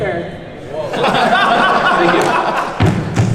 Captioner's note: panelists laugh